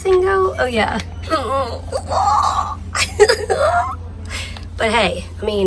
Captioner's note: laughing